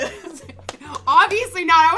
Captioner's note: both laugh